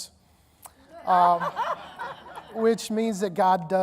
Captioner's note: audience laughing